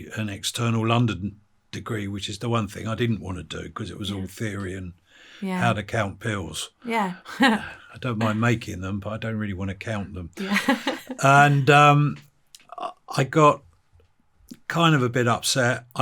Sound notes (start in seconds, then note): 7.9 chuckles; 10.4 interviewer laughs